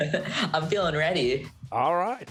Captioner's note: chuckling